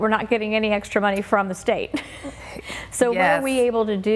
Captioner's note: laughing